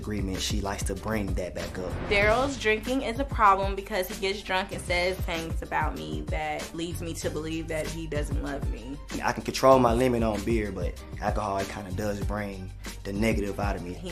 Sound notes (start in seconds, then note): none